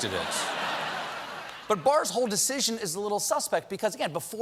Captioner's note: laughter